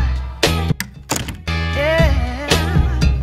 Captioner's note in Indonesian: door slam